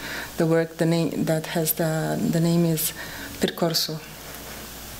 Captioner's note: speaking portuguese